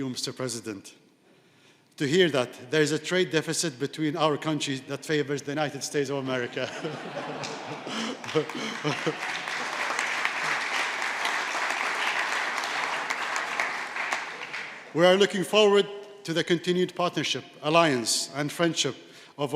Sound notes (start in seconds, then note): 9.1 laughter; 10.2 applause